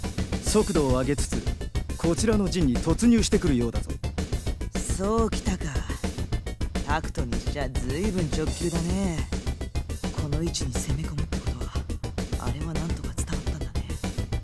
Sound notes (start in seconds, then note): none